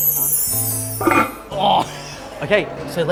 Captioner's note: weights clang